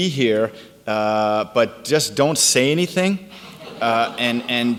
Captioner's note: audience laughs